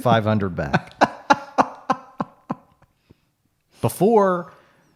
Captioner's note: laughing